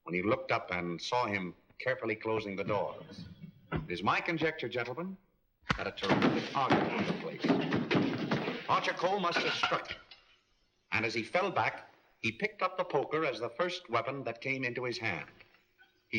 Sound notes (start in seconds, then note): 6.0 sounds of struggling; 9.9 poker clattering